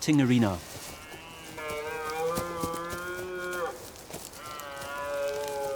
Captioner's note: deer calling